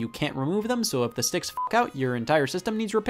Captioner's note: beep